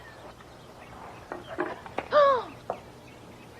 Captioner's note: gasps